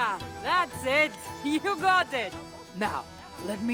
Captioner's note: laughing